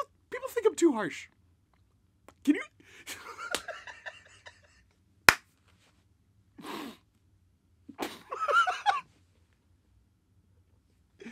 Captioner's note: Joker laughter begins again